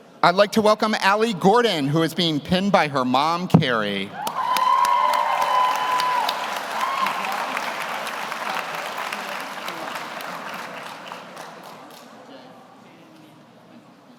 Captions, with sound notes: I'd like to welcome Allie Gordon, who is being pinned by her mom, Carrie. (audience cheers) (audience applauds)